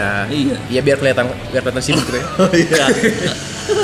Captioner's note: laugh